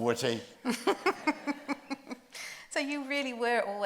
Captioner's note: group laughs